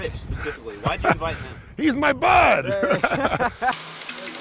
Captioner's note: laughs